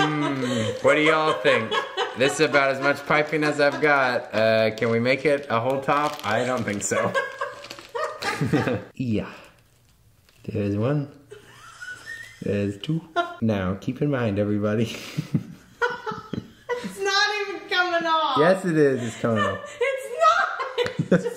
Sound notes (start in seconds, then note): 6.3 both laughing